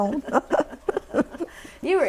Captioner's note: laughter